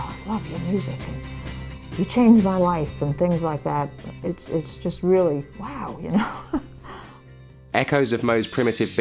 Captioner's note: laughs